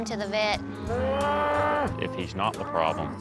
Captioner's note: loudly moos